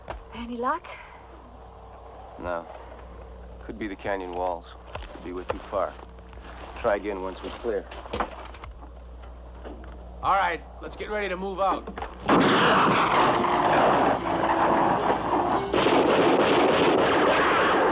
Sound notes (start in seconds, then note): 10.2 gunshot; 13.8 gunfire